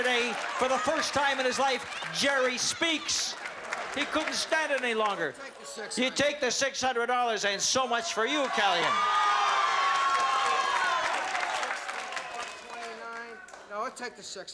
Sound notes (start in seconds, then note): 7.8 cheering and applause